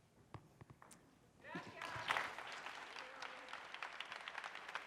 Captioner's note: audience applauds